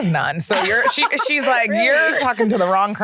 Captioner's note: laughs